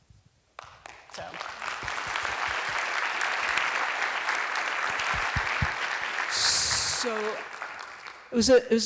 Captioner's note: applause